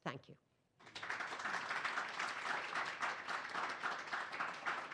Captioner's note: audience clapping